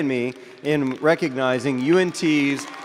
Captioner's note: audience applauding